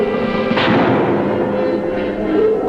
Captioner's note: gunshot firing